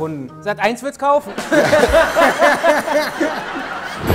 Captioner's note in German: Sie lachen